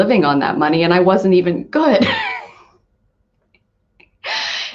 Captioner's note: laughs